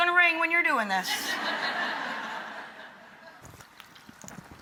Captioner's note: audience laughs